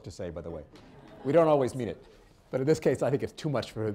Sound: laughter

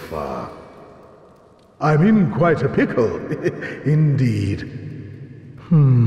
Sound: giggling

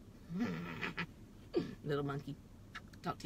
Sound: laughing

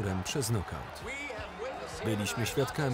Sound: audience cheering

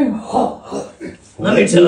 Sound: laughs

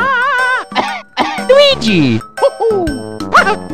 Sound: panics; cough cough

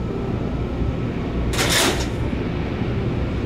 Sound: clang

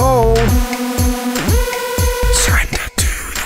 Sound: weeee woooo

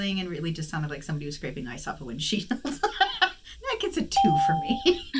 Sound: laughs

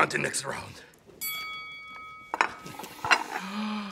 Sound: bell pings; Cookie Monster gasps

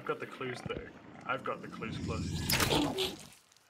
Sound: deep grumble, roar

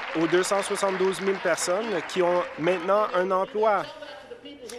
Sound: applause

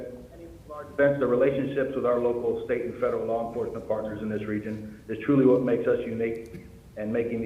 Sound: audio fading in and out

